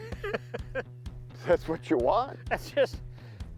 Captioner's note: chuckles